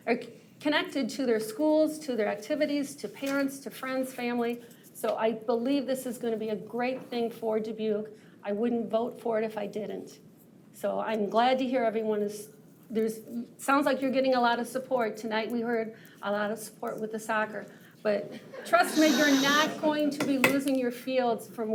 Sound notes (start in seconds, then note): 18.8 shushing